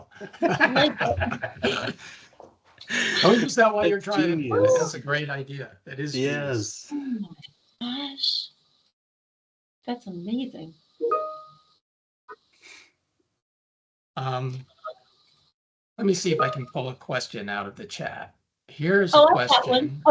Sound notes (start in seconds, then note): 0.0 laughing; 6.9 gasping